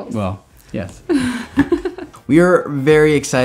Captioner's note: giggling